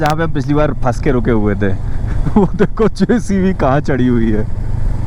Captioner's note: chuckles